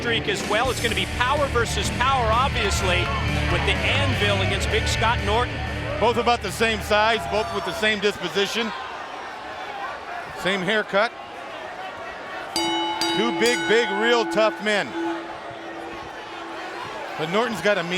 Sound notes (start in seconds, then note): 12.5 bell ringing